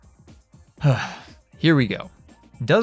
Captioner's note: sighing